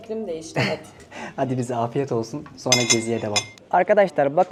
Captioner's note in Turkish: boğazını temizler